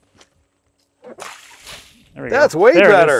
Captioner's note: water splashing